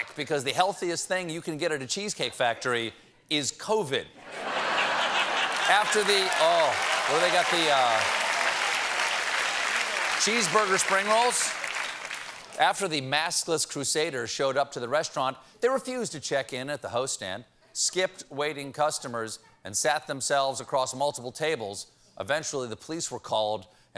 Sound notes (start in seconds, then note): 4.2 laughter; 5.0 applause